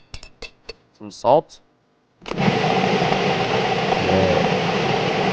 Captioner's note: metal tool tapping against glass; blender whirring